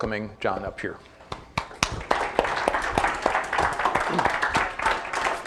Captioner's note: audience applauding